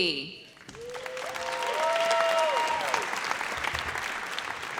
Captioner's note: audience cheers